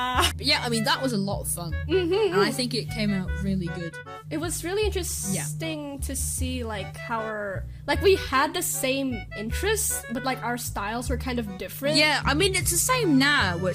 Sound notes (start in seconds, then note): 1.8 agreement noises